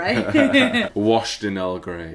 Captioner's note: laughing